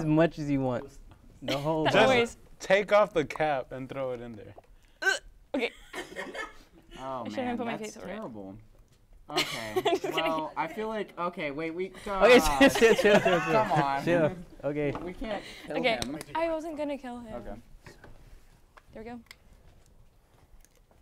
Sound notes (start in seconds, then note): 5.3 gags; 12.3 laughs